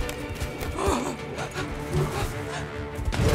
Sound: screams, grunts; groans, gasps; growling

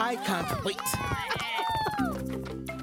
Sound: cheering

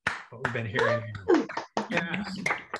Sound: applause

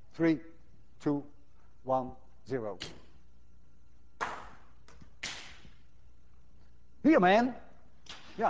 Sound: ball whooshes; ball whacks table

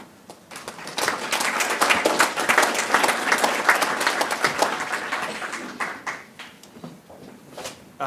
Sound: audience clapping

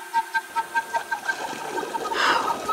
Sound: water flowing

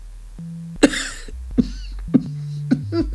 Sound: a small slight cough

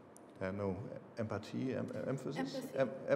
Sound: speaking foreign language

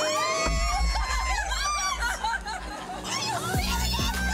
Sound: squealing

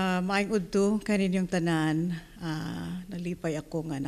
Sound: non-english speech

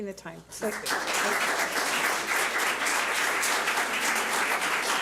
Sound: public applauding

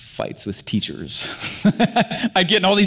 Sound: laughs

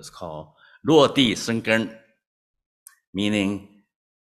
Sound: non-english

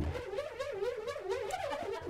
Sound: funny noise

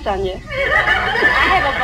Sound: audience laughs

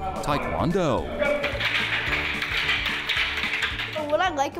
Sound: sticks clicking

